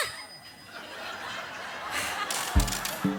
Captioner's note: audience laughs